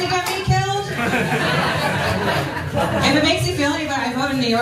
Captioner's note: laugh